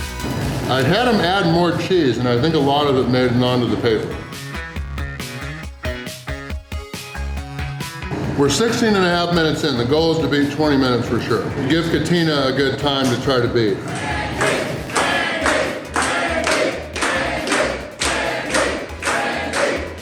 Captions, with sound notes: I had them add more cheese and I think a lot of it made it on to the paper. We're 16 and a half minutes in. The goal is to beat 20 minutes for sure. Let's give Katina a good time to try to beat. [Crowd] Randy! Randy! Randy!!